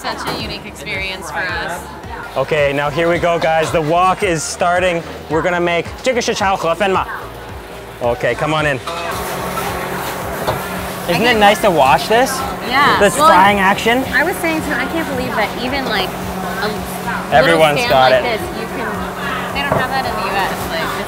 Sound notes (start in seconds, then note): 9.2 air conditioner blowing